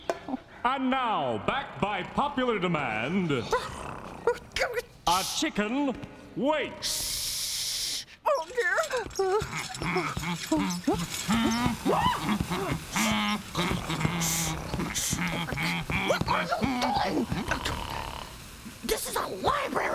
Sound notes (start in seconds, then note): 8.5 humming; 11.2 shrieks; 16.1 Theo snoring